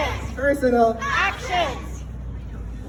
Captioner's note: crowd